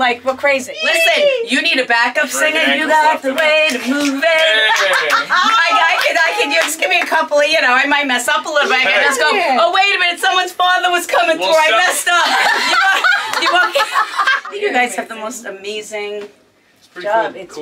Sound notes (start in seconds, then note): 4.3 people laughing; 12.0 laughs